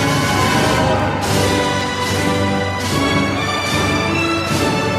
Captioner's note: applause